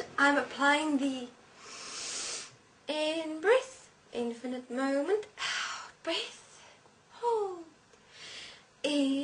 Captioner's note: inhale